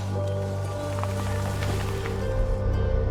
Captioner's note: falling tree sound